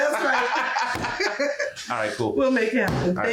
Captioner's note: laughs